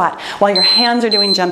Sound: timer beeping

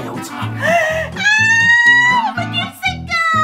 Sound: screams

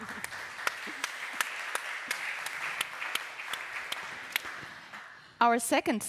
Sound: applause

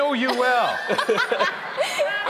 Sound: hosts laughing; audience laughing

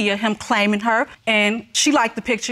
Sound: none

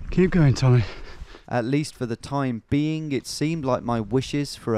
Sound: voiceover

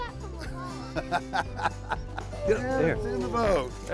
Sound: laughter

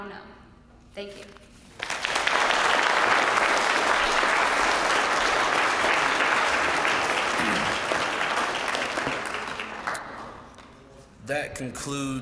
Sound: applause

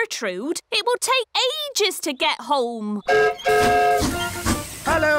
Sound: whistle blows

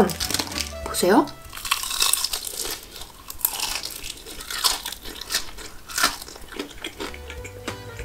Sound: crispy sound

